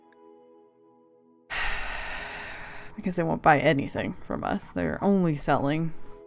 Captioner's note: sigh